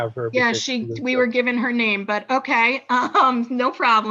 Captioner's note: chuckles